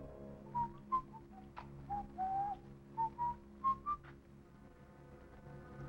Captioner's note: Officer Dillon whistling